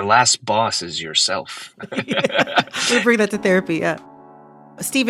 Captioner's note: laughter